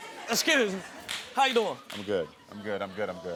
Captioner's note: audience laughing